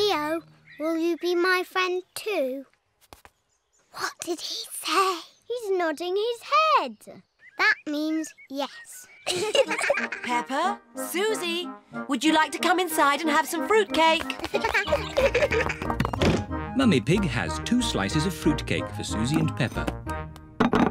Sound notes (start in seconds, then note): 3.9 whispering; 9.2 both giggle; 14.3 both giggle